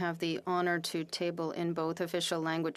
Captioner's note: speaking French